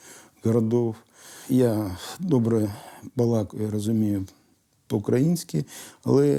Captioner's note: in Ukrainian